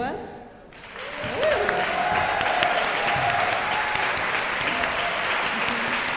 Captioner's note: audience cheering and applauding